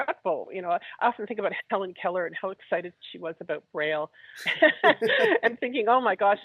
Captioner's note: laughs